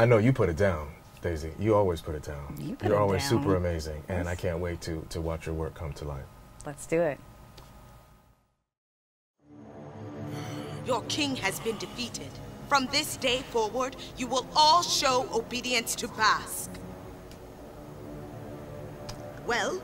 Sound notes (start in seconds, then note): 10.1 groaning